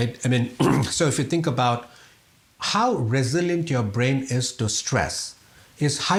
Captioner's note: cough